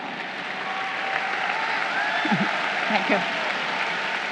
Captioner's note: crowd cheering